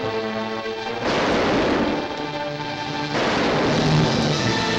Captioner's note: suspenseful music; gun firing